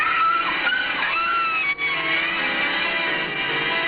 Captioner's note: dog whining